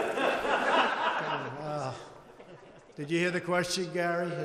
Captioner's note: laughter